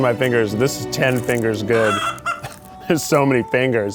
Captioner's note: chicken bawks